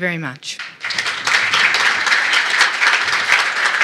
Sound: applause

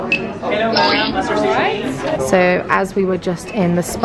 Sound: people chattering; machine bleeping

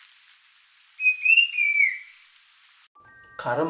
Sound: Brown-capped Babbler calling

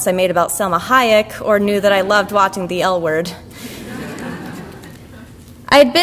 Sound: audience laughter

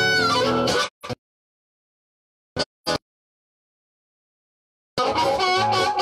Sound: no sound

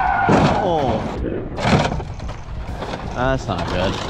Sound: tires screeching; car crashing

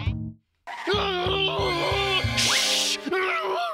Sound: growling

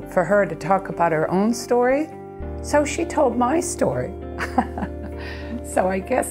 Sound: laughter

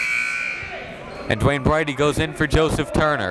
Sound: buzzer dings

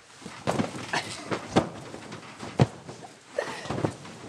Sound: pillows thudding

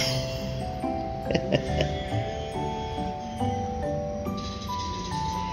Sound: laughs

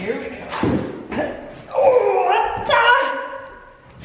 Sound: grunts

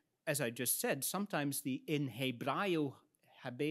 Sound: speaks in Latin

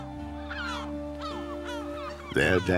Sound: seabirds call

